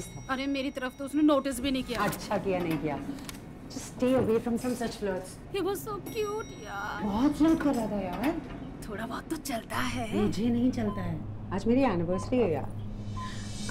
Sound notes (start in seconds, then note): 1.6 Elevator door opens